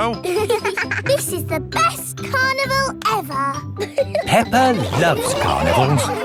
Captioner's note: both giggling